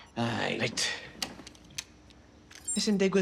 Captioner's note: in Welsh